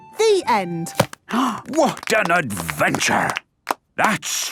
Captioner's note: applause